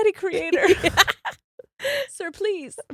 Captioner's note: both laughs